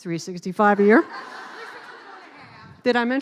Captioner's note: laughing